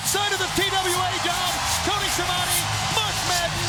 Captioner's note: crowd cheers